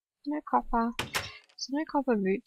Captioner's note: door opening